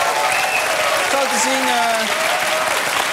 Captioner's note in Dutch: applaus en gejoel